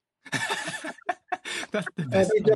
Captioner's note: laughs